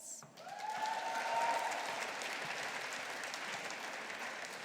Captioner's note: audience applauding